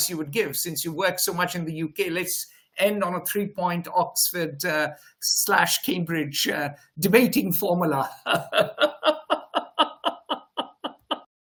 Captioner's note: laughs